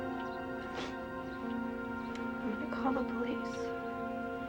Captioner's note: Brenda snuffles